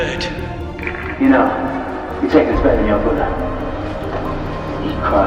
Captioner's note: over tannoy